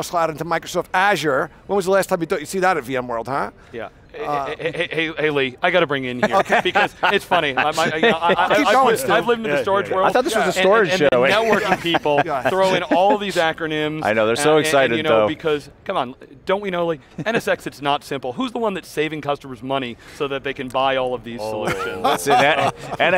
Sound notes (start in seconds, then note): 6.2 laughter